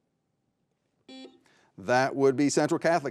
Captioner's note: buzzer buzzing